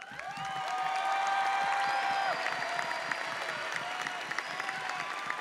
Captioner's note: audience cheers and applauds